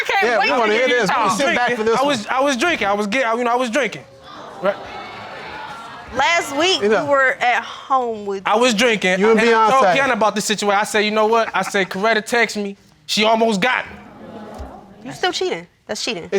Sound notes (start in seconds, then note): 4.0 audience exclaiming